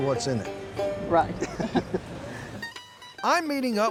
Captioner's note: both laugh